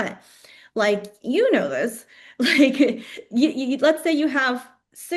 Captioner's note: laughs